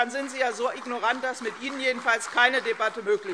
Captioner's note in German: Beifall CDU und BÜNDNIS 90/DIE GRÜNEN